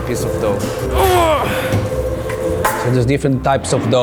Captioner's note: grunting